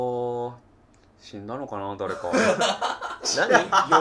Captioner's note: laughing